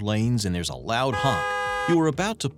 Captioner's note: car horn honks